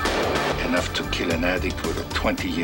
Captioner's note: gunshots